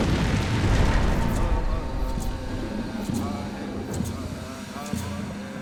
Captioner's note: chanting in Native language